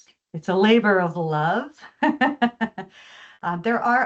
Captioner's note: chuckles